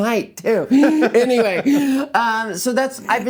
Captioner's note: laughing